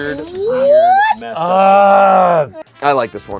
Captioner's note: groans